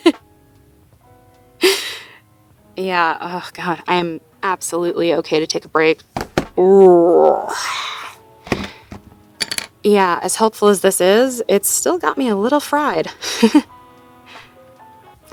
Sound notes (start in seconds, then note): 8.4 groans, puts notebook and pen down; 13.2 chuckles